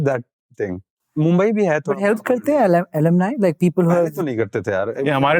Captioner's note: speaking in Hindi